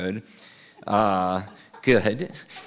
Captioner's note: laughing